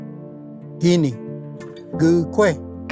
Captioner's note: repeats in Cherokee